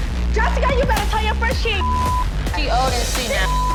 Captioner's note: beep